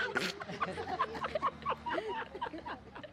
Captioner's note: laughs